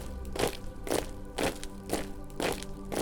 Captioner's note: marching